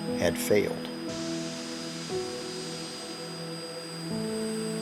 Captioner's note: machinery hissing